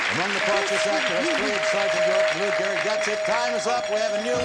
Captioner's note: bell chiming